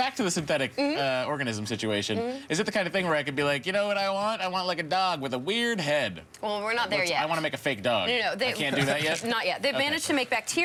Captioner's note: laughter